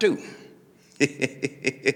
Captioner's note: laughing